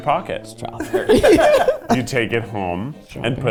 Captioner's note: people laughing